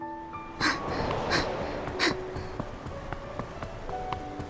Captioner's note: huff; grunt